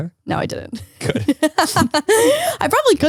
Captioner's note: laughs